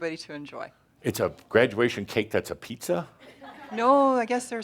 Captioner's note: a few chuckles